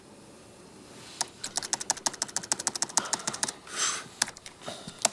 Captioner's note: keyboard clicking